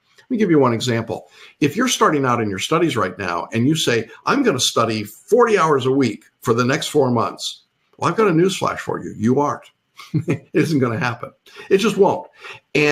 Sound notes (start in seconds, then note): 10.0 laughs